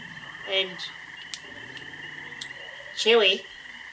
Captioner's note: chews noisily